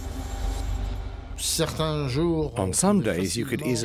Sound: speaking French

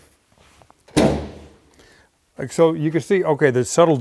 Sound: hood thudding

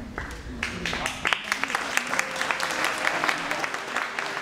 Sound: applause

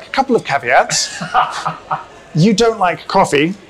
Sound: laughs

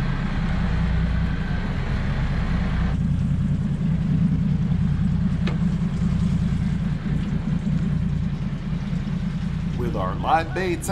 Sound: boat engine idling

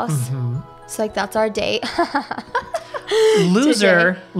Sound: laughs

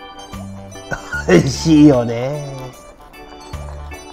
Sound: laughs

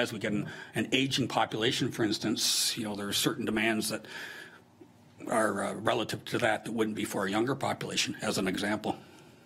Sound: none

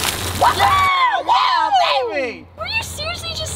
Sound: cheering

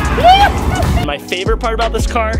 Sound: videographer cheers

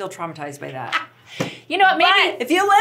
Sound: laughs

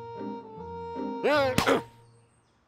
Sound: grunts

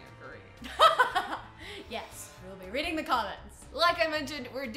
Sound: laughing

